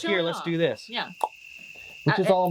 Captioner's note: makes a pop sound